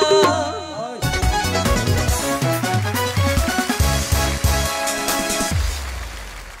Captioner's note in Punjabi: ਤਾੜੀਆਂ